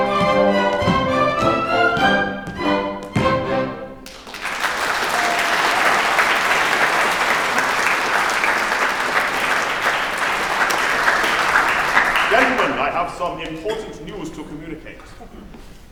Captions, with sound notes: [Applause] Gentlemen, I have some important news to communicate.